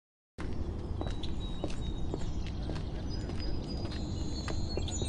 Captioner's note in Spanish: pájaros cantando